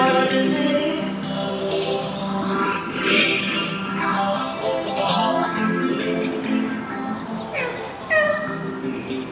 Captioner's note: imitating high-pitched mews